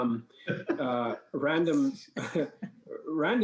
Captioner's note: laughs